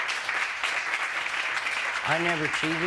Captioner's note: applause